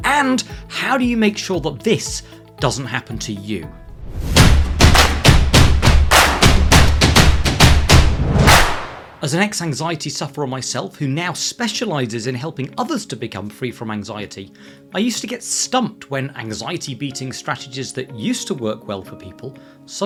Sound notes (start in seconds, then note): 4.1 hands clapping; 4.1 drums beating